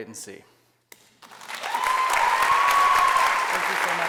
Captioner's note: applause